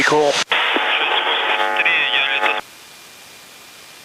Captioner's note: foreign language transmission, garbled